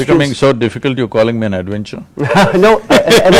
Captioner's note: laughs